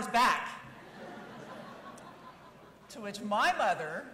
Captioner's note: audience laughing